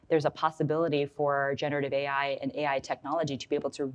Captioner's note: none